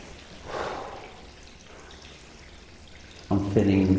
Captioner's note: exhales